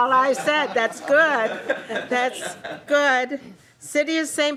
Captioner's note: laughing